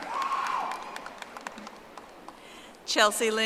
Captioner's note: audience applauding